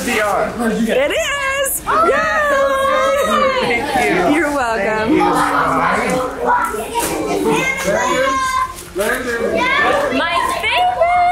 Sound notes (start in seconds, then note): 2.0 family chatters excitedly; 5.3 family chatters excitedly